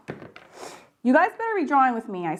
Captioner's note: phone banging table